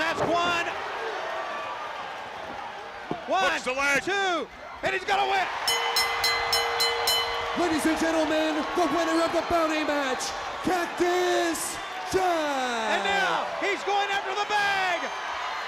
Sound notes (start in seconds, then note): 5.6 bell ringing; 6.1 crowd cheering; 13.3 crowd cheering